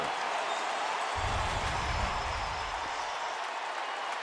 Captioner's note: cheering